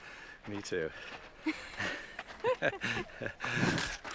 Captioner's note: laughing